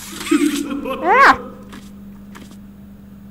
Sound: Huggy laughs

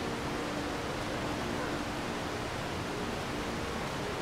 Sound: water rushing

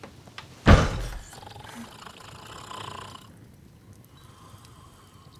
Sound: Hagrid snoring

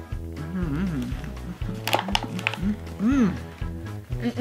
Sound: dad groaning

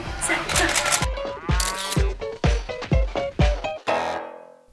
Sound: camera shutter clicking

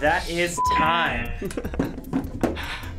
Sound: buzzer rings; laughs

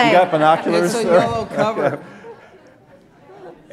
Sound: laughter

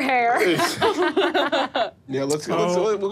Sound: laughs

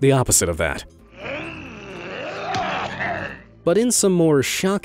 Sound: low grumbling

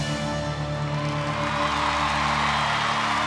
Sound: clapping and cheering

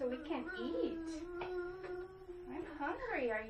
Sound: continues whining

